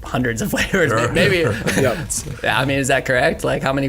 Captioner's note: chuckling